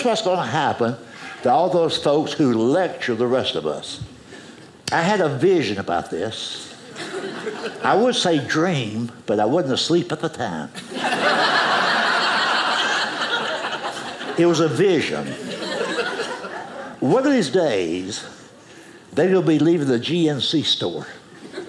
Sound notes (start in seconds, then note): 6.8 audience laughing; 10.8 audience laughing